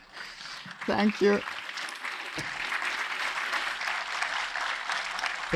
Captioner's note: audience applauds